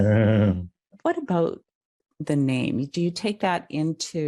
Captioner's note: laugh